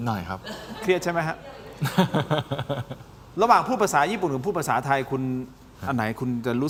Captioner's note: laughter